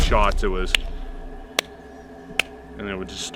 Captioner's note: clapping hands rhythmically